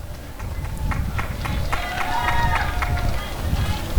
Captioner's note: applause and cheering